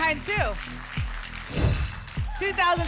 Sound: whoosh

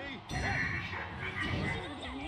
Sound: demon power up noise

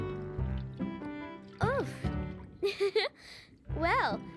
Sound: giggles

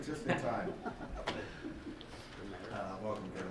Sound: laughter

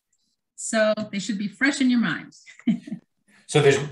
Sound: laughs

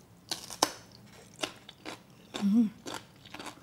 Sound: crunching

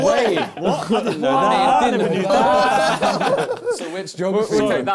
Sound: crowd mumbling

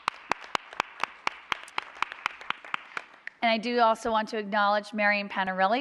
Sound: applause

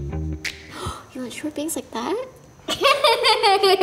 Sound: groovy music; gasp; giggling

